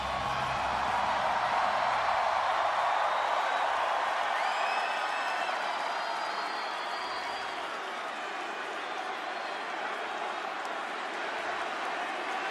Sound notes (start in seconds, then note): 0.0 applause